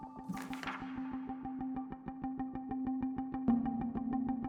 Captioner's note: page flipping